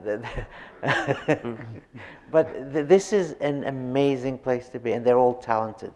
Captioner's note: chuckles